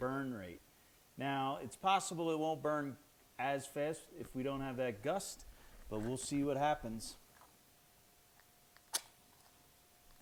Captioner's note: strikes match